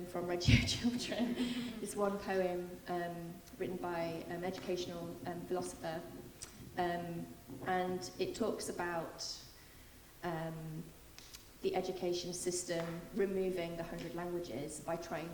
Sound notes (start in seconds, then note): none